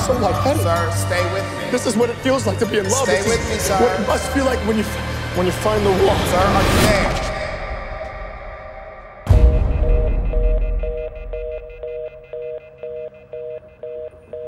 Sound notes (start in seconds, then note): 9.7 phone beeping